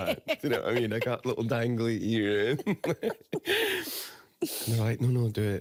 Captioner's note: both laughing